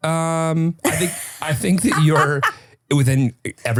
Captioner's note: laughing